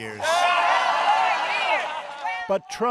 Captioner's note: cheers